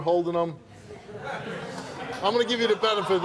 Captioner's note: audience laughs